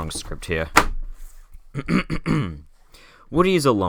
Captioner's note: cough